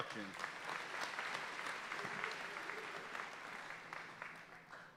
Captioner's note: audience applauding